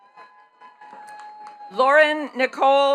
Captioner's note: attendees cheering and clapping